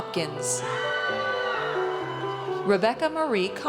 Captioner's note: audience cheers